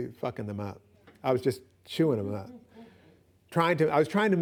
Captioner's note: laughs